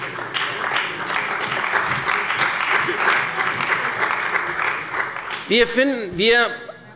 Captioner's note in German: Beifall bei der CDU und dem BÜNDNIS 90/DIE GRÜNEN